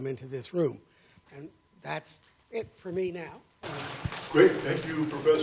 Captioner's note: applause